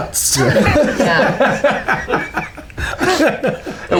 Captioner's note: laughter